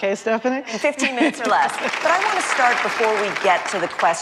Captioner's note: applause